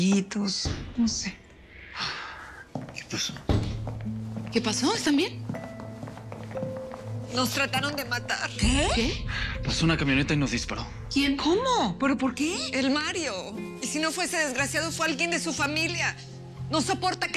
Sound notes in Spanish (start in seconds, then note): 3.4 Ruido al abrir la puerta